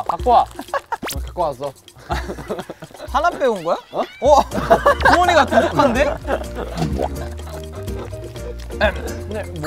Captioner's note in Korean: 당찬 발걸음